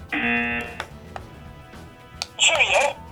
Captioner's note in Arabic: صوت الجرس